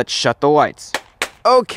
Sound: clap

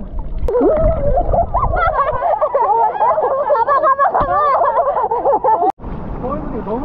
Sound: laughing

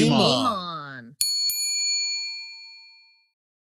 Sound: bell dings

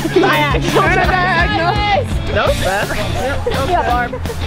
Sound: happy chatter

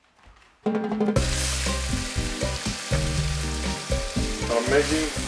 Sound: sizzling food in a pan

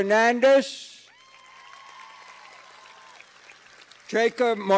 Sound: cheers and applause

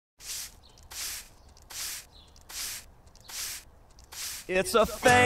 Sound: sweeping

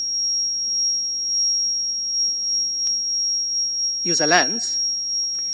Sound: high pitched squeal warbles

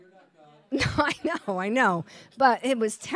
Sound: chuckles

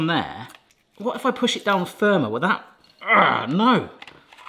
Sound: grunts

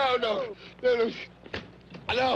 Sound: Roy gasping for breath

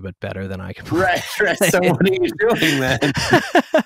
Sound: laughter

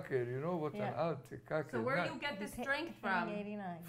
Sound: non-english

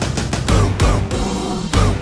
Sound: roar!

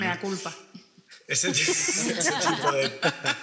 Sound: some laugh

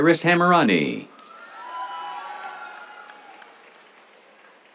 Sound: cheers, applause

